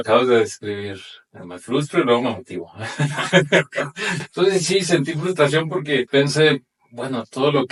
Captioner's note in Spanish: risas